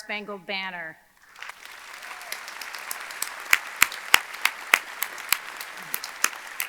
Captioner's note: audience clapping; audience cheering